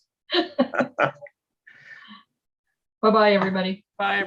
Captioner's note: laughing